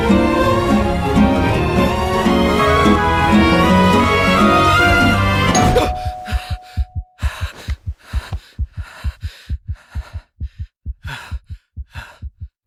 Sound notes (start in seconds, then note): 5.5 doorbell rings; 5.5 gasps; 7.2 panting